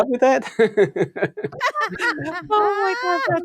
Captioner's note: all laughing; laughs